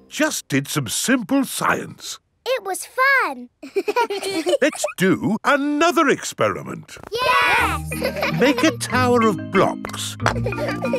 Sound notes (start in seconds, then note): 3.6 children laughing; 7.4 laughing; 10.0 children laughing